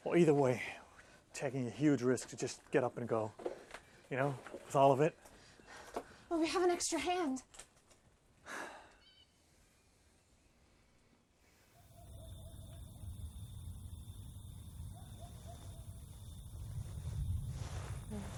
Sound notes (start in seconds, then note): 11.7 crickets chirping